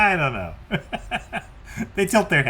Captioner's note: laughs